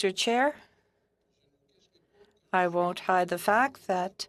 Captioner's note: speaking French